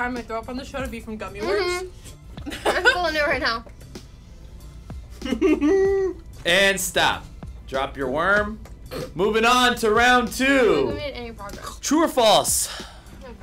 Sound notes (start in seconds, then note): 5.2 chuckles